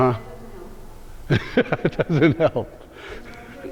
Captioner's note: laughs